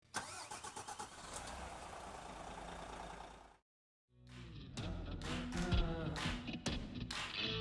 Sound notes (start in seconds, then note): 0.0 engine starts; 4.3 upbeat music